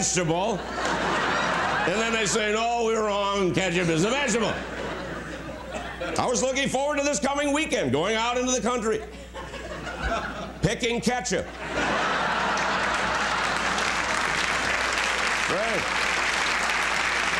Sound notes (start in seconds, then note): 7.2 laughter; 14.3 laughter; 16.5 applause